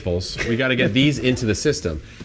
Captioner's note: laughs